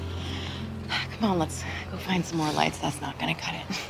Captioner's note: sighs